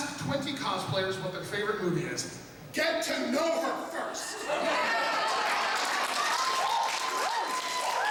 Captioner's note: applause